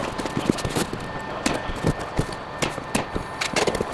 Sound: stapling

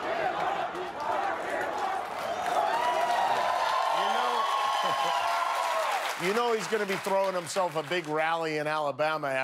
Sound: crowd chanting "lock him up"; cheers and applause

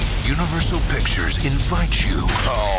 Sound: voiceover

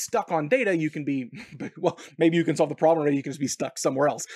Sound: laughs

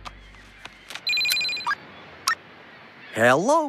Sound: phone Rings

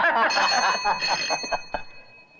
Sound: laughing; phone Ringing

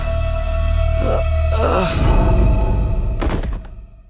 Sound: thuds; Davion groaning

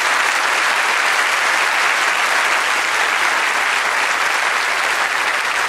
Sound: applause

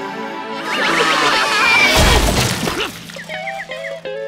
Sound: screaming

